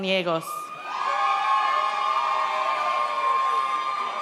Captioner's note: audience cheers